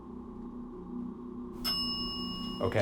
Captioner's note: bell dings